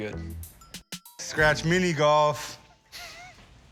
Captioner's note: chuckles